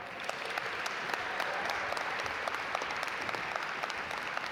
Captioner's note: audience applaud